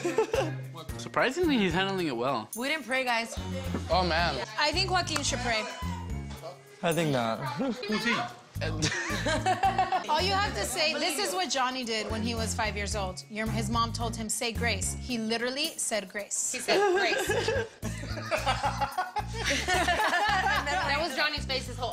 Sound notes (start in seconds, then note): 0.0 laughs; 8.8 laughs; 16.6 laughing